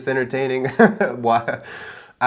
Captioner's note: laughing